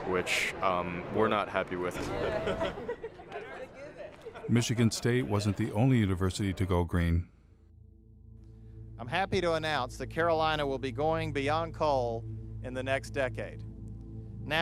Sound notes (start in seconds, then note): 1.9 öğrenciler gülüyor